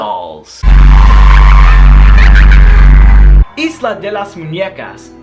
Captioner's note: creepy laughter